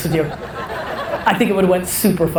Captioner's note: audience laughter